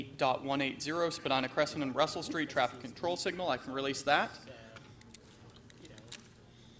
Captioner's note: off microphone